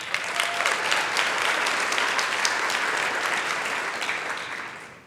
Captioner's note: applause